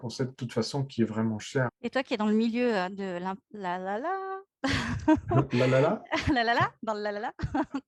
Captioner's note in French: Rires